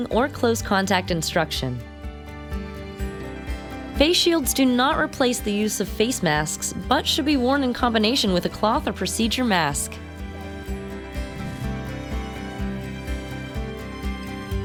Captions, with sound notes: or close contact instruction. Face shields do not replace the use of face masks, but should be worn in combination with a cloth or procedure mask. (air whooshing)